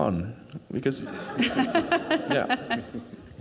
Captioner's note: crowd laughing